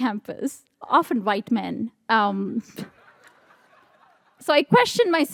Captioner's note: audience laughs